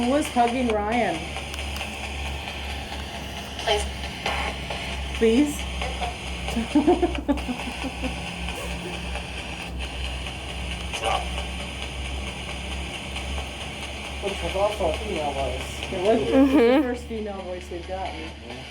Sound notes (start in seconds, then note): 6.5 laughing